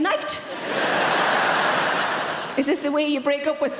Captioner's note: audience laughing